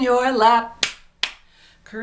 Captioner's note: clapping